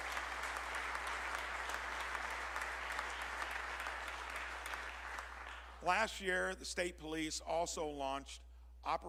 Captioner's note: applause